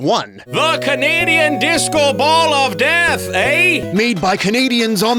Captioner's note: Canadian accent